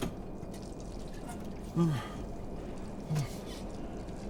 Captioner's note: sigh